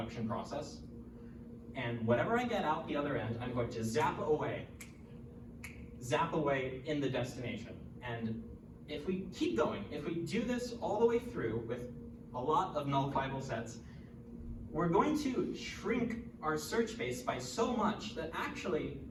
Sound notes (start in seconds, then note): 6.1 zap away